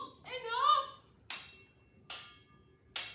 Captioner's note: clashing swords